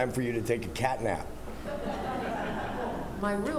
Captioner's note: laughter